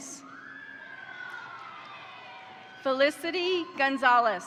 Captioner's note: crowd cheering; crowd applauding